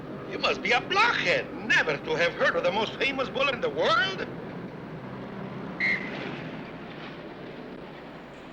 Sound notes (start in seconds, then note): 5.8 whistle blows